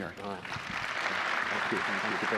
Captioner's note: applause